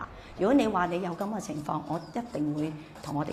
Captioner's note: Cantonese